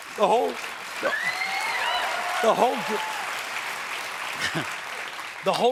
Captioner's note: applause; cheers